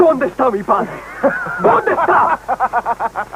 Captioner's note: laughing